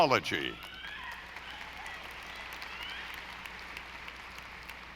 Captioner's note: audience applauding